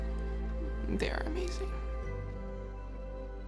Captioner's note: voice breaking